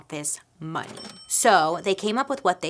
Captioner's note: cash register ringing